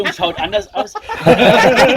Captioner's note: laughing